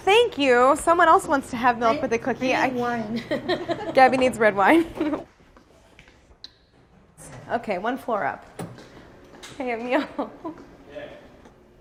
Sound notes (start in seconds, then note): 2.9 laughs